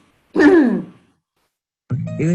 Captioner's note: throat clearing